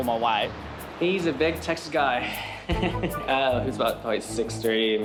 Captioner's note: laughs